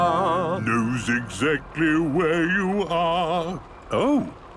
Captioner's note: mimicking tune